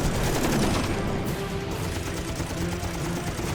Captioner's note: gunshots